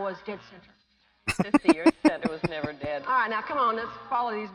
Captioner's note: chuckling